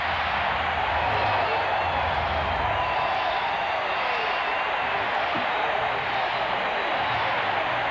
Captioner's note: cheering